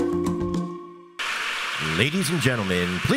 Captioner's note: audience applauding